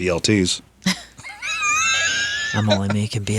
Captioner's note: laughing